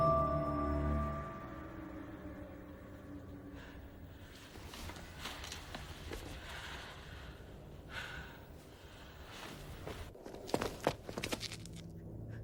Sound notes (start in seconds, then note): 6.1 fabric rustling